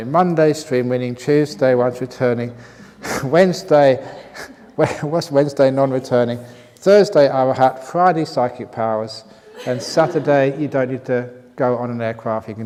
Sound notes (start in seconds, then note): 4.0 laughs